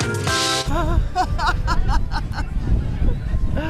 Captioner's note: laughs